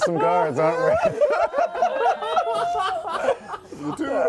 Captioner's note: laughter